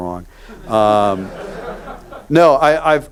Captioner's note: audience laughs